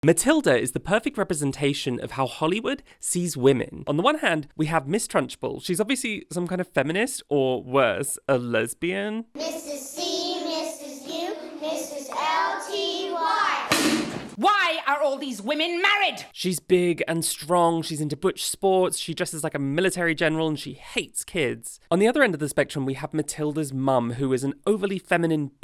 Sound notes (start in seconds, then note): 10.2 chanting; 13.7 whip crack